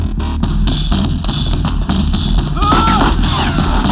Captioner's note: yells